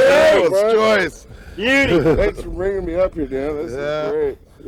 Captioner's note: laughter